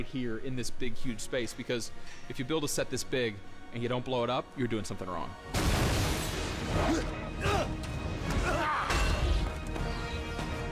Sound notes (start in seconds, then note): 6.4 grunts